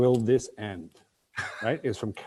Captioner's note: laughter